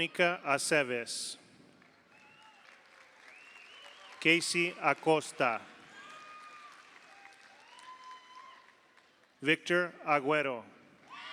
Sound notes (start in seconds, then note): 3.1 audience applauds; 3.3 audience cheers; 6.1 audience applauds